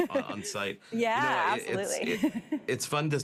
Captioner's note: laughs